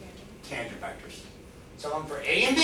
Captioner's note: woman's Voice